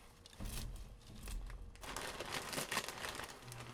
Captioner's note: crunch